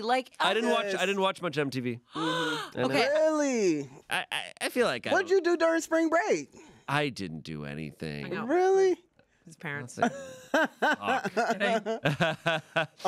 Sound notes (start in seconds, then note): 2.1 gasps; 10.1 laughs